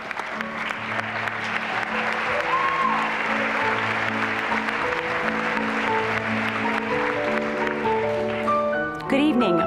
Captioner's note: applause